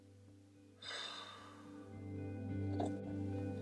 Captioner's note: deep breath out